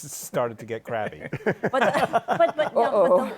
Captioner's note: laughter